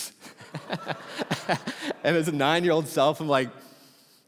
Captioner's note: congregation laughing